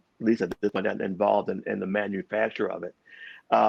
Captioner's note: audio distorts